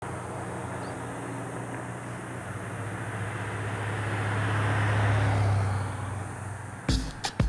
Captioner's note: traffic sounds; upbeat Latin music